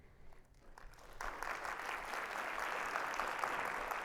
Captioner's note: audience applauding